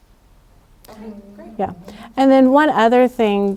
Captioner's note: attendee Through Translator